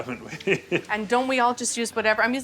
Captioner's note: laughs